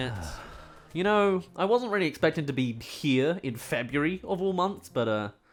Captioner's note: exhales